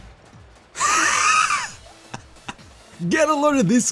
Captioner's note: gasp laughing